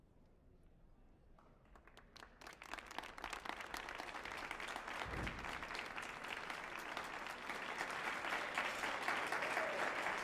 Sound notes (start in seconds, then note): 2.2 audience applauding